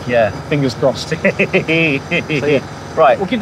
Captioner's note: laughing